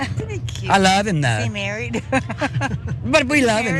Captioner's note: laugh